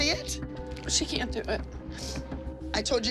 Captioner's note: sniffles